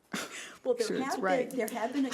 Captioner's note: laughing